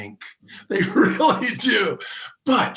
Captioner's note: laughs